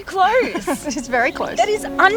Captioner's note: laughs